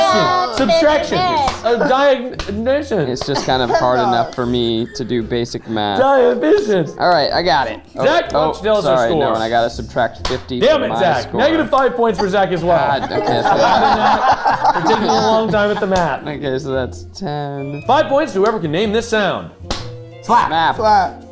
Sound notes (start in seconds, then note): 14.2 group laughing